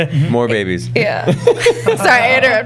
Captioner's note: laughter